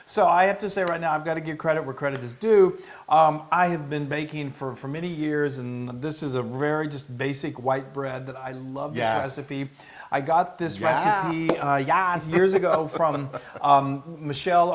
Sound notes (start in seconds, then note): 12.1 laugh